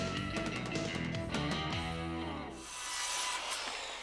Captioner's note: power saw